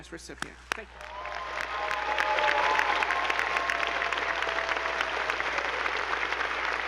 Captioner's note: attendees applauding; audience cheering